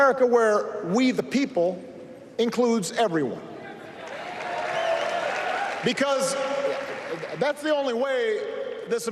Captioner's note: applause